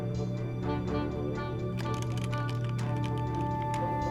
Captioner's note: keys clacking